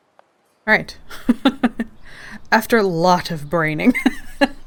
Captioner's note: laughs